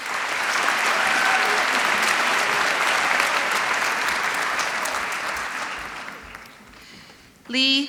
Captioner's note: applause